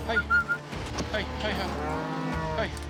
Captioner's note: whistling